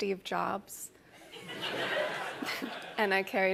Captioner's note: laughter